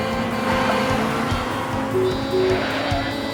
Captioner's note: horns honking